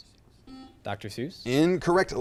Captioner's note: buzzer chimes